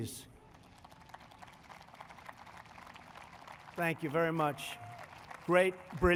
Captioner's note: applause